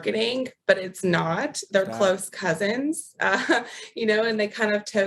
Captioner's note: chuckles